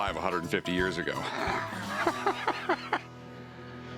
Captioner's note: laughs